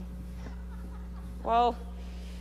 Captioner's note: audience laughing